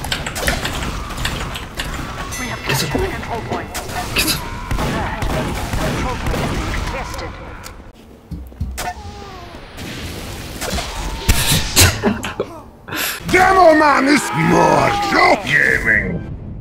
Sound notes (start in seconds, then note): 11.7 laughing